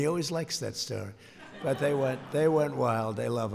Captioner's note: laughter